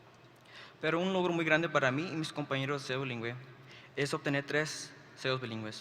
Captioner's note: speaks foreign language